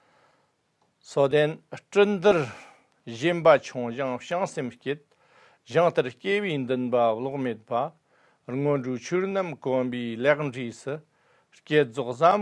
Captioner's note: tibetan